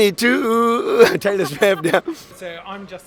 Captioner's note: laugh